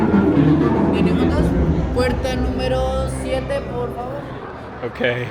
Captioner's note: worker speaking Spanish